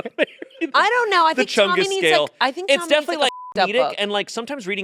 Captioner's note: beep